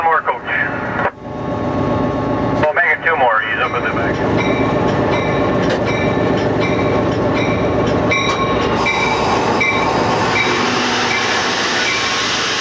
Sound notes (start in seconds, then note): 2.6 muffled radio announcement; 8.8 bell tolling